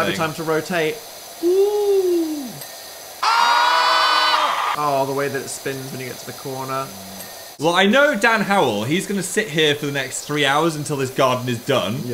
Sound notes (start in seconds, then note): 3.2 screaming